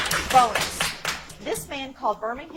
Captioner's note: audience applauds